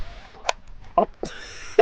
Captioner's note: match snaps